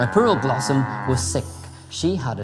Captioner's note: cow moos